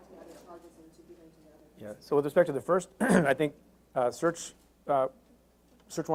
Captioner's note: clears throat